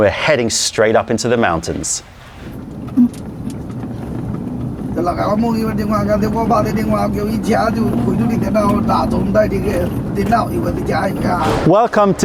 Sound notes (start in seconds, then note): 6.0 chinese language